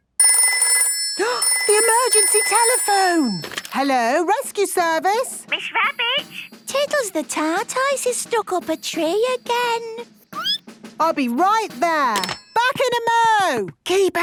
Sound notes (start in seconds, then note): 0.2 phone ringing, gasp; 10.2 squeaking